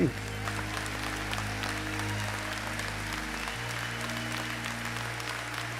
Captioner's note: audience applauding